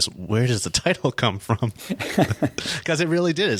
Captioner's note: laughing